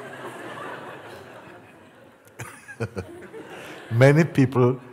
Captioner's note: Lachen